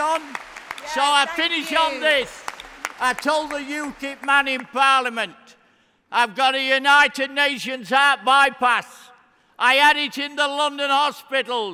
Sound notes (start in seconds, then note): 5.3 cheering; 6.1 applause